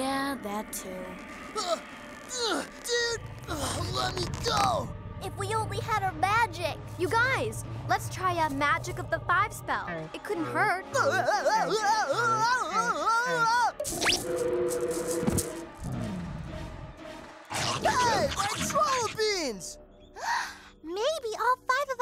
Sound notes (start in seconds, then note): 19.1 gasps